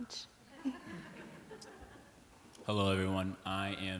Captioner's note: laughter